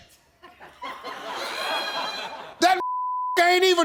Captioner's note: audience laughing